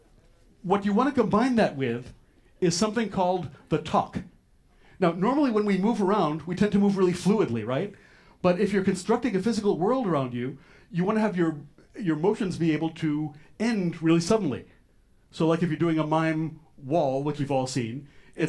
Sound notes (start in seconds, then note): none